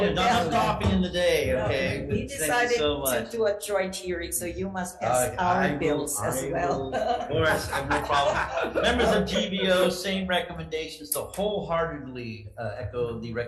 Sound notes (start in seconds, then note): 0.0 board members laughing; 6.6 laughs; 8.3 board members laughing